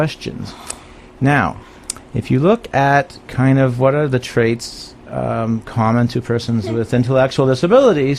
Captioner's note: giggles